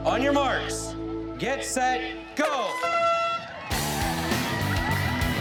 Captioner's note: air horn blaring; upbeat rock music; cheering